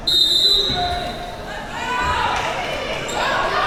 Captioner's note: whistle blowing